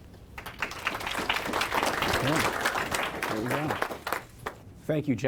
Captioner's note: applause